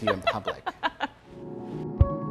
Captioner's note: giggling; poignant music